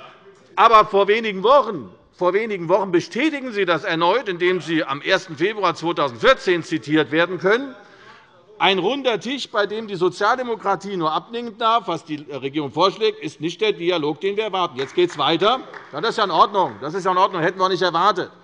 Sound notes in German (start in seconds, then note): 14.7 Demonstrativer Beifall bei Abgeordneten der SPD